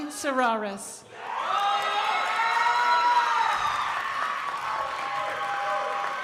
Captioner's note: crowd applauding